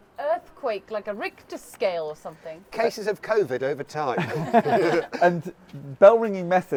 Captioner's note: all laugh